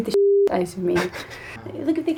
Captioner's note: laughing